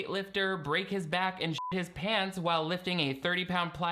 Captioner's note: beep